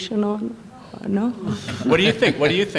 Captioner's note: laughter